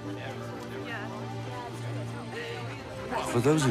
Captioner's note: chattering